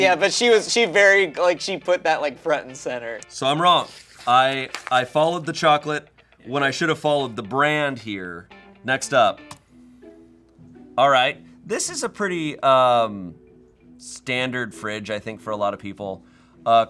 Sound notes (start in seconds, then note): 9.2 key clacks; 9.7 soft music